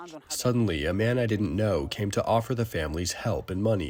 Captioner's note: through translator